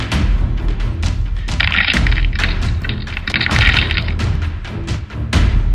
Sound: bones brreaking

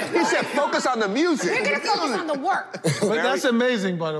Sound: overlapping chatter

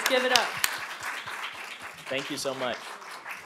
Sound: applause

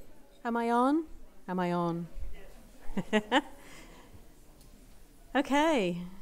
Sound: laughs

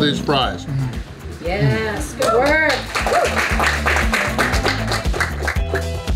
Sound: crowd clapping and cheering

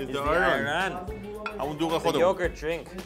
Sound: speaks in foreign language

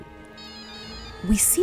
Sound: toy trilling

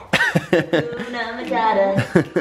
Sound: laughing

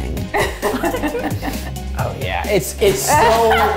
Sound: laughs

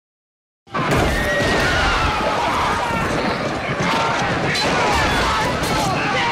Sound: people yelling; horses neighing

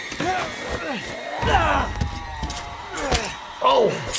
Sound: people grunting

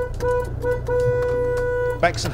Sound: horn

